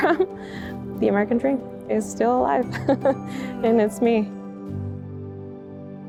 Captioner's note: chuckles; chuckles